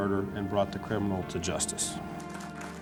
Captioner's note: applause